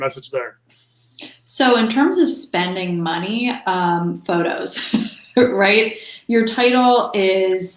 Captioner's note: chuckles